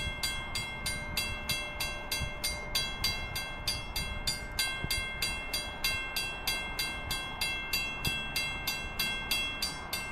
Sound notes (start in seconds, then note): 4.3 bell continues